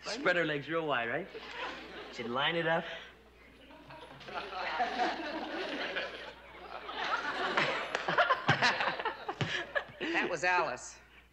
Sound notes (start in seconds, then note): 4.1 audience laughing